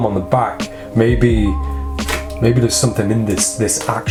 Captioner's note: snaps